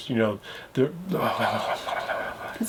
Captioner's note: blabbering